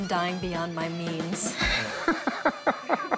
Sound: laughs

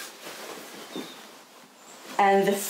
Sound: dress rustles

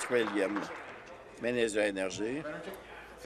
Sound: applause

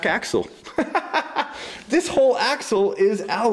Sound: laughter

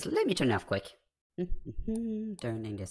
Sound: humming

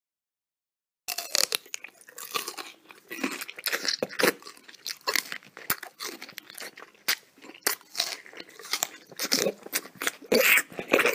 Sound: sound of a man chewing

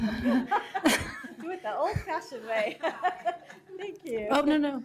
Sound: laughter

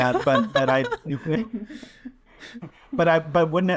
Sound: laughing

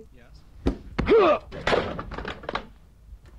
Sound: chair clatters

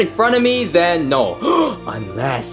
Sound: gasping

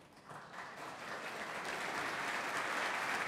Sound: applause

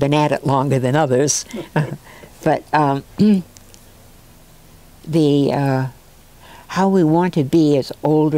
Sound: laugh

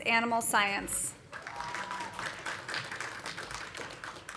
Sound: audience applauding

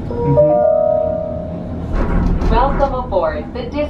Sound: announcement pings

